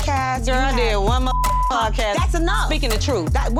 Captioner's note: beep